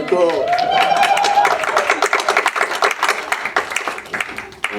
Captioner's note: audience applause